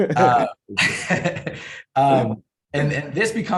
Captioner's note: both laugh